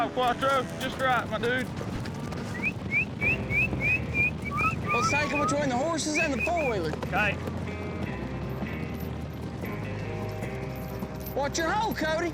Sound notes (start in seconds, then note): 2.5 whistling